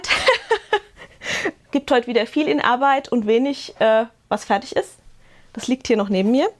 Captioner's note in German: gelächter